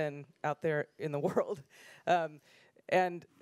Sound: laughs

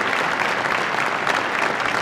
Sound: applause

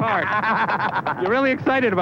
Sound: laughing

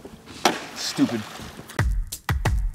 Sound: water splashes

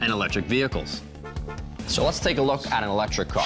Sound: horn honks

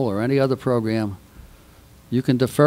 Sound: none

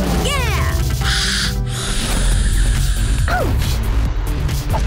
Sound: hisses

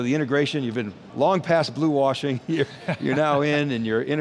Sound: laughing

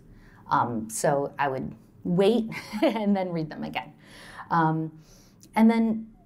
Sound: laughter

